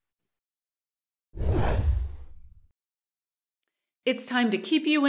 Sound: whoosh

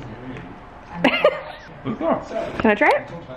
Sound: laughing

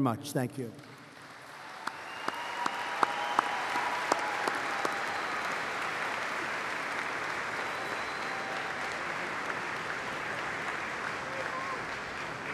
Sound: applause

